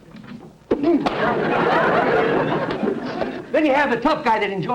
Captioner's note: audience laughter